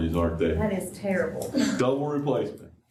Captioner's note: laughter